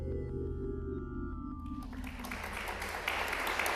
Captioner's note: applause